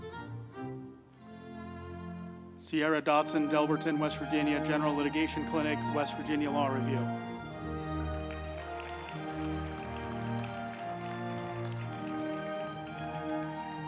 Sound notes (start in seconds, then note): 7.4 group applauding; 8.0 uplifting music